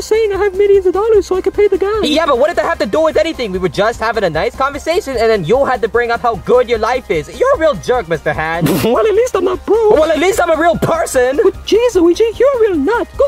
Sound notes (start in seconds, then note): 8.5 chuckles